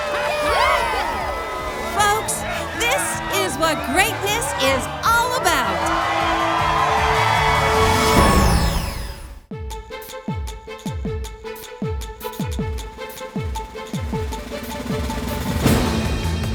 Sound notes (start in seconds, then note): 5.3 crowd cheers; 5.3 triumphant music; 9.3 exciting music